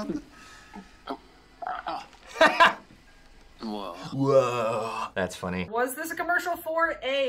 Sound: laughs; wretches

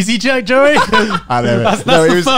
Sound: laughing

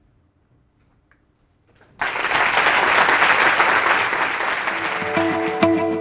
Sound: applause

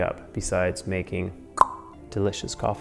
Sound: clicks tongue

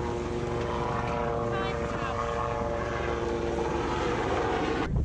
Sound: helicopter passing

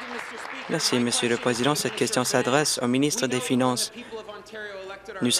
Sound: applause

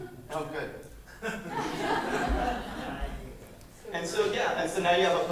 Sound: laughter

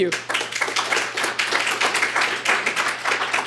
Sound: applause

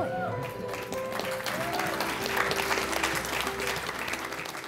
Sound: cheers, applause

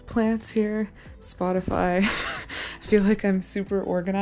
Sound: chuckles

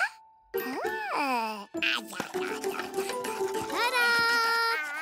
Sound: babbles

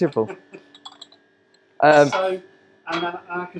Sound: laughing

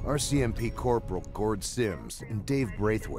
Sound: voiceover

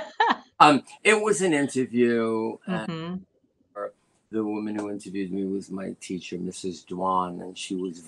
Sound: laughter

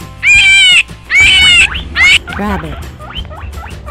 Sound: rabbit sound

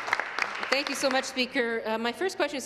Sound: applause

